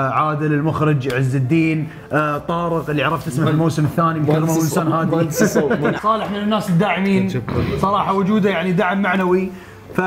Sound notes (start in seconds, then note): 4.4 laughs